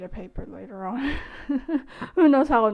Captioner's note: laugh